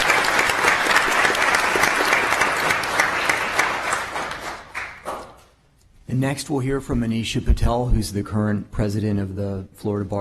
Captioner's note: applause